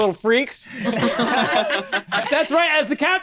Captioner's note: laughs